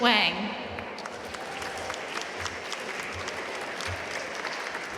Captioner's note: audience applauding